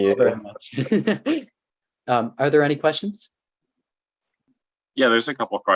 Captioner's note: laughs